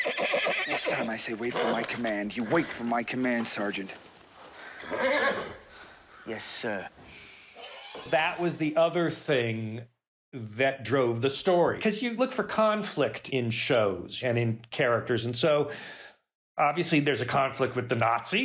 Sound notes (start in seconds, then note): 4.6 horse neighs